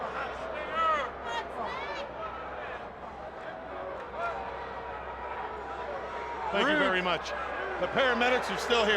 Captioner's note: crowd chatter